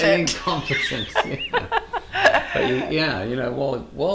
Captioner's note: loud laughing